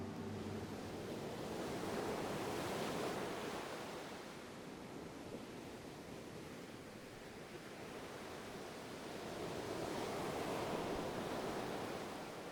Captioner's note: soft music fades away; sound of waves